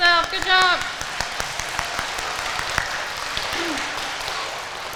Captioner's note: audience applauding